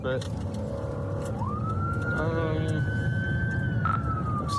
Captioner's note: siren wailing